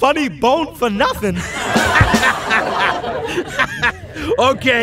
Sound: audience laughing

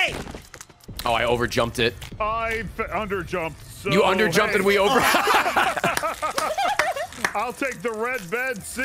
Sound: laughs

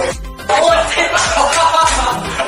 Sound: LJW, GAR & KJH laugh

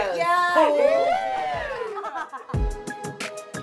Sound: cheers; upbeat hip-hop music

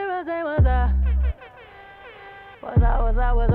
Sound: air horns tooting softly

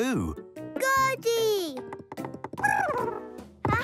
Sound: chirping

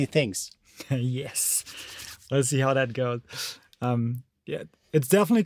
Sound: giggles

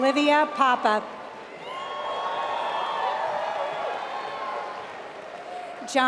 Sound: applause

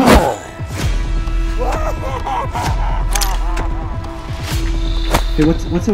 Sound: evil Boss Laughing

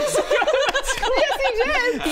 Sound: convenient laughter

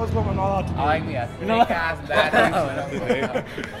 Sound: laughs

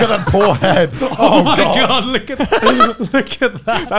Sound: laughs

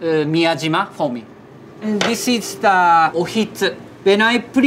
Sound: text chiming

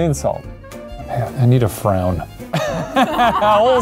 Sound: laughing

